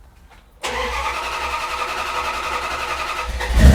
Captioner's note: engine revs